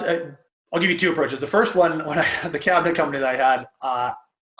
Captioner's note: laughs